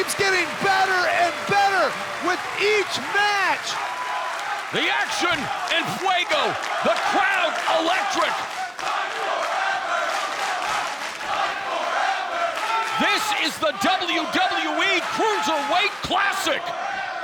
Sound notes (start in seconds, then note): 5.6 speaks Spanish